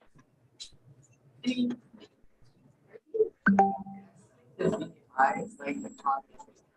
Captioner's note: indistinct conversation